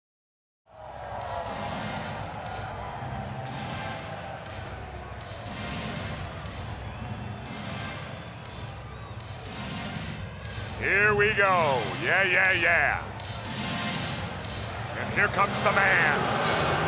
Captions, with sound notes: (upbeat music) (crowd cheering) Here we go. Yeah, yeah, yeah. And here comes the man.